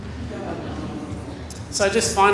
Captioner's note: laughter